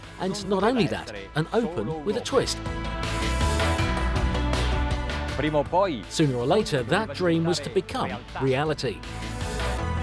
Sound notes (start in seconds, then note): 1.9 dramatic music; 5.4 speaking in foreign language